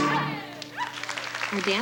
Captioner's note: applause